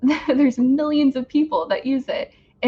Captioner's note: laughs